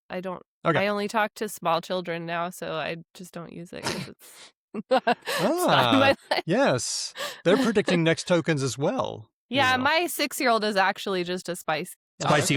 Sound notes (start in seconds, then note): 4.8 laughs